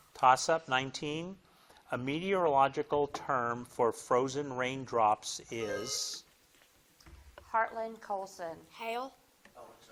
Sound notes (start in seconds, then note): 5.6 buzzer blips